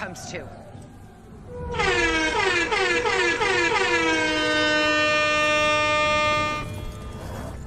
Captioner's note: "War" horns